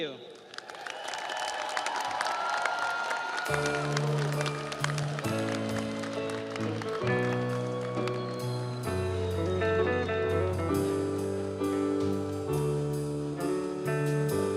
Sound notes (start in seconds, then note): 3.4 audience applauds; 3.4 audience cheers